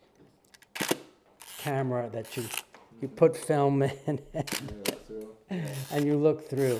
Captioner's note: laugh